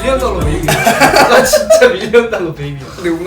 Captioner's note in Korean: 웃음